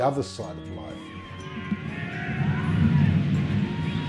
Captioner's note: screaming